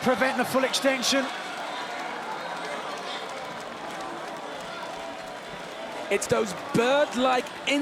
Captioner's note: applause